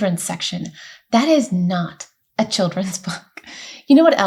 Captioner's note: laughs